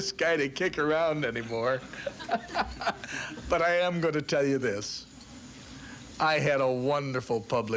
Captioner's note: laughs